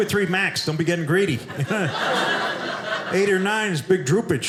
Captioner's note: audience laughing